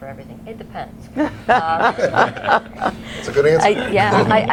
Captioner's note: laughter